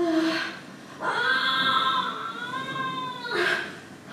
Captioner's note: again screaming